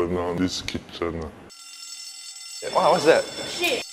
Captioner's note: fire alarm ringing